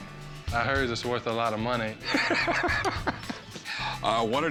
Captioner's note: laughs